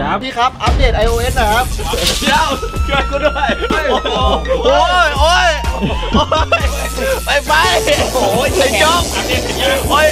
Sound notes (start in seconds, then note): 6.5 laughs